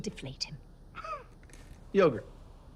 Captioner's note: detective Jilson laughs